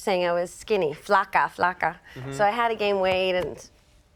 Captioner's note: marisa speaking spanish language